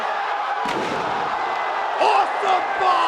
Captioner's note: Scorpio thuds; table cracks